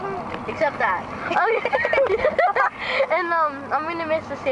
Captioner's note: laughs